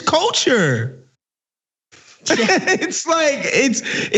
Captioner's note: laugh